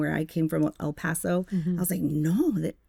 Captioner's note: speaking Spanish